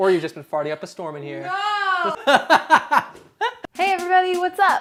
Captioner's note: laughing